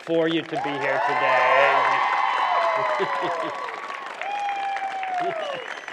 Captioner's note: cheering